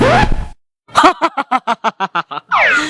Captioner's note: evil laugh